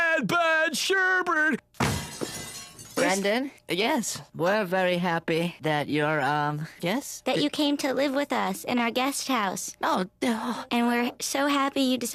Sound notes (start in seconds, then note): 1.8 crashing